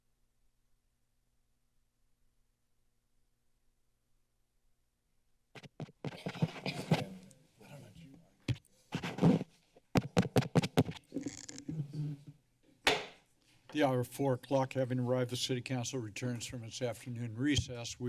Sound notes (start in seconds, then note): 1.5 silence; 5.5 taps mic; 9.9 taps mic; 11.1 mic noise; 12.9 hits gavel